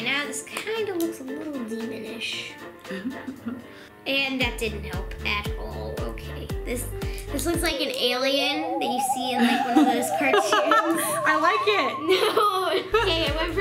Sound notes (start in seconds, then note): 2.9 laughs; 10.7 conspiracy music; 11.9 laughs